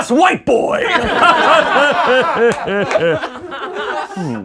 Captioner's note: laughing